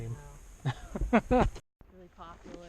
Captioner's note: laughs